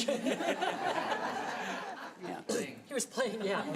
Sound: audience laughing

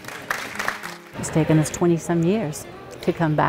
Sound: audience applaud

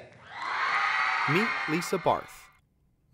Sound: crowd cheering

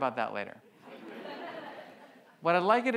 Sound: audience laughs

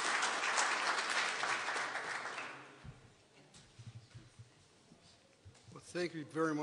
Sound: applause

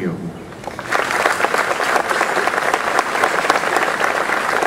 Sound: audience applause

